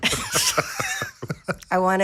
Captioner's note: people laughing